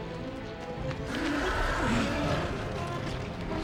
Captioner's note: growling